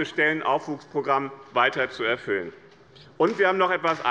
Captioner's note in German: Beifall bei dem BÜNDNIS 90/DIE GRÜNEN und der CDU